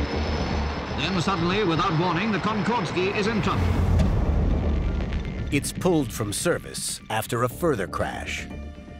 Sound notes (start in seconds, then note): 1.0 radio voice